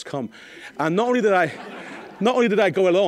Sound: audience laughing

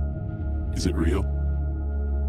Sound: low Voice

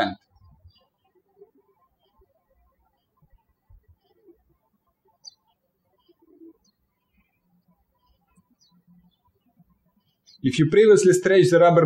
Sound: birds chirping

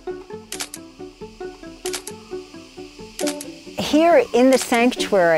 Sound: playful music; camera clicks

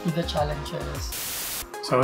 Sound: static sound

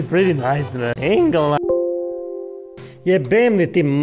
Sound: game crash

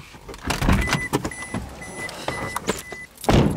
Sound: door beeping

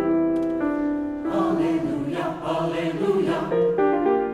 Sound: hushed; playful piano music

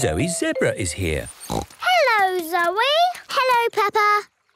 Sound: snorts

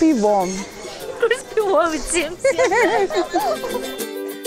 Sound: both laugh

